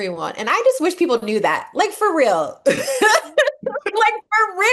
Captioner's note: laugh